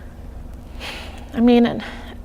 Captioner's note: sighing